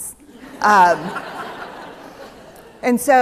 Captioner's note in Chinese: 笑聲